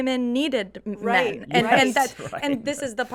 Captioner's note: group laughs